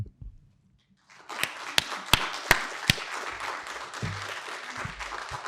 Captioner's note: audience applauding